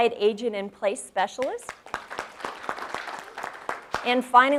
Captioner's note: audience claps